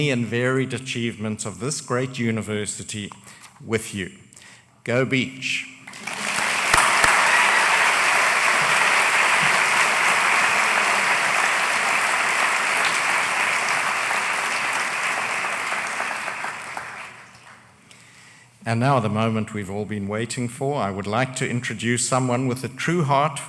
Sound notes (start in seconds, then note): 5.9 applause